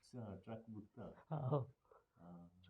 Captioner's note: chuckles